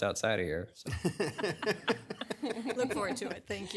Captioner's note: audience laughing